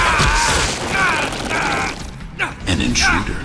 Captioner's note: grunts